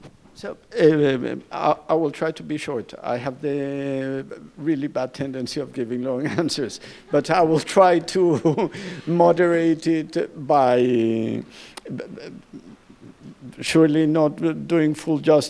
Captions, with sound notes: - I will try to be short. I have the really bad tendency of giving long answers. But I will try to (chuckles) moderate it by surely not doing full justice to the problems.